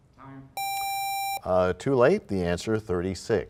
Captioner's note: bell rings, time expires